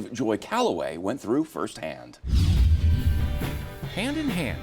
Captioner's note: screen whooshing